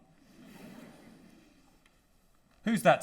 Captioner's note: audience laughter